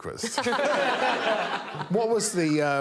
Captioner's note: all laughing